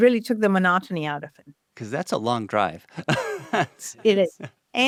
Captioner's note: laughs